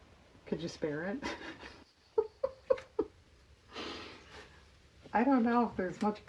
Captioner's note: laughs